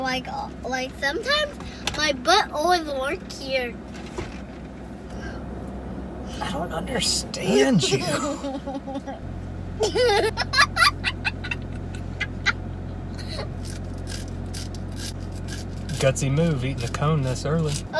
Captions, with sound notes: - Like, like sometimes my butt always work here. - I don't understand you. (laughing) (laughing) (crunching) Gutsy move, eating the cone this early.